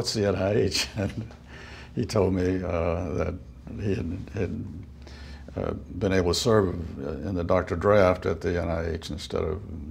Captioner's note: chuckle